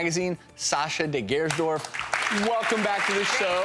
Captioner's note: audience applauds